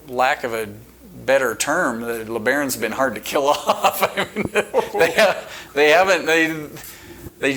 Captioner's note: chuckling